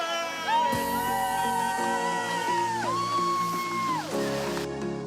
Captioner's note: students cheering